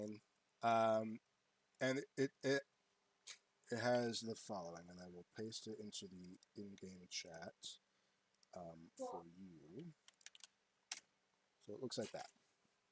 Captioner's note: typing